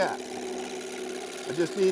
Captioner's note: machine revving